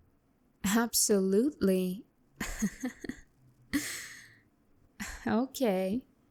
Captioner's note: laugh